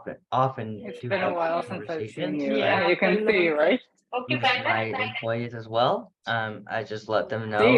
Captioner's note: mixed voices